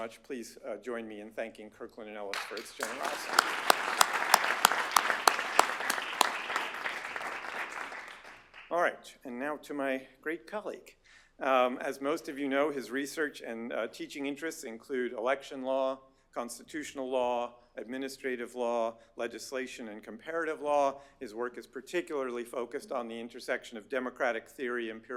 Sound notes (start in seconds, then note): 2.3 applause